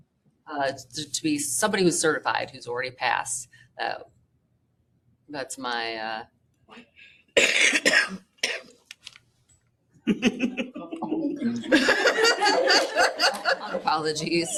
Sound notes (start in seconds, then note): 6.2 laughter; 7.4 coughing